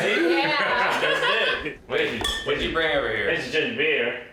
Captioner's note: laughing